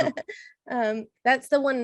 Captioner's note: laughs